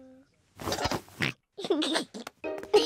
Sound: oinks and giggles

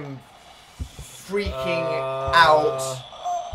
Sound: wailing softly; moaning

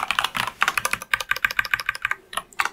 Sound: typing

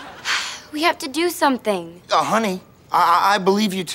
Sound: sighs

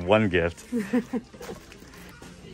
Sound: girlfriend laughs; christmas music plays

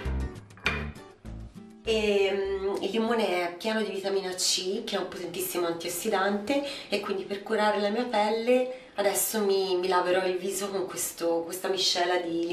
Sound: voiceover

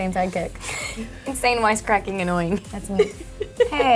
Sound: laughing; laughs

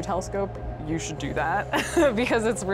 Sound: laughs

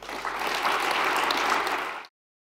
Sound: applause

